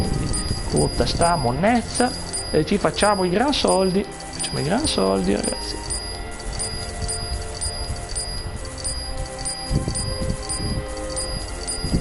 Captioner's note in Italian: campana; campana